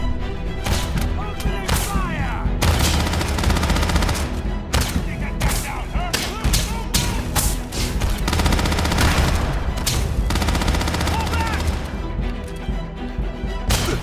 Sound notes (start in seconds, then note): 7.7 pirates yelling